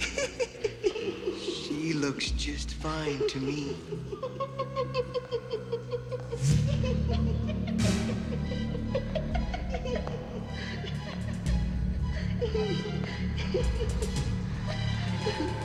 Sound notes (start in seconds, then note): 0.3 woman laughing; 4.0 both laughing; 6.2 suspenseful music continues